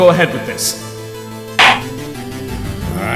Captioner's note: gavel slams!